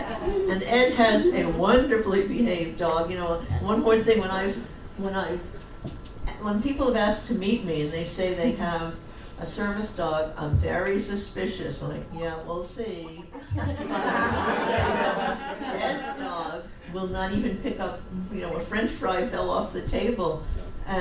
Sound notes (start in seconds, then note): 0.0 audience laughs; 13.3 audience laughs